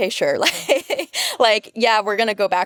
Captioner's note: laughing